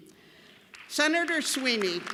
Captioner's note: applause